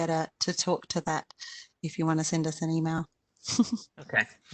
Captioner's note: chuckles